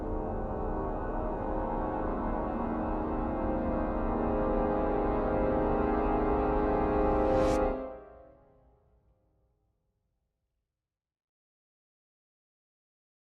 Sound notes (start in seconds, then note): 0.3 music intensifies; 7.8 air whooshing; 7.8 music fades